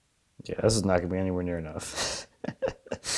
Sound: chuckles

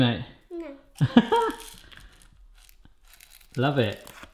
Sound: laughter

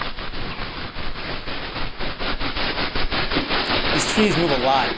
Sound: shaking trees noise getting louder

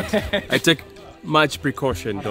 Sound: laughs

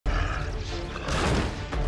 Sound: snarls

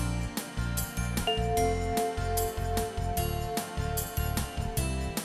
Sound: bell chimes

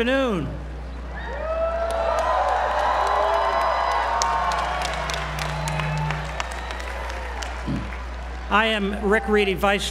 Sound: applause

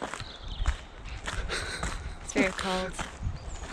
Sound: laughs

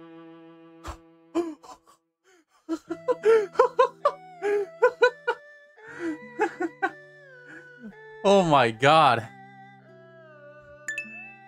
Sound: maniacal laughter

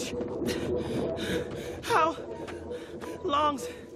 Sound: panting

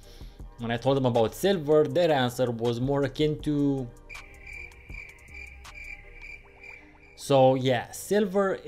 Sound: crickets

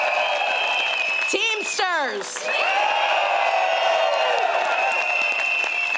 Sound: crowd cheers

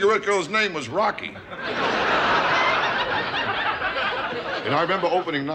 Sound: audience laughter

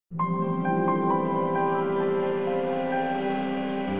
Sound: logo chiming

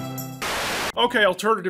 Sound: TV buzzing

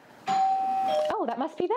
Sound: doorbell Rings

